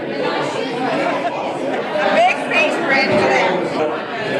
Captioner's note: laughs